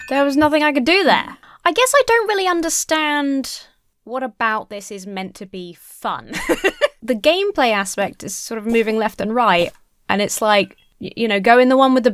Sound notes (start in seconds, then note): 6.3 laughs